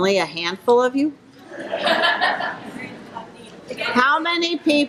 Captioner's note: audience laughing